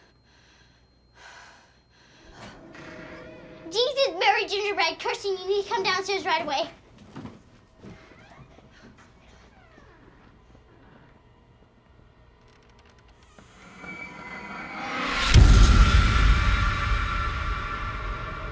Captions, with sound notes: (door creaks) - Jesus, Mary, gingerbread! Kirsten, you need come downstairs right away! (door creaking) (startling music)